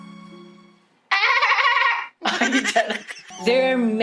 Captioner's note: mimics horse neighing, laughs